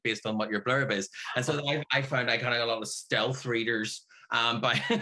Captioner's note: laughs